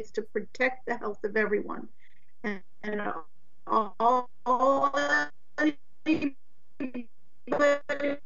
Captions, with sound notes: It's to protect the health of everyone. And all of the (voice distorted) say ( voice distorted).